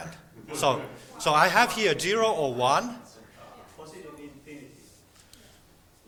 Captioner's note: students talking